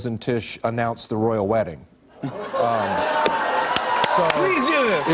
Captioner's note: cheers and applause